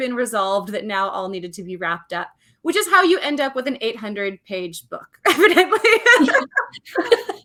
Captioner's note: laughs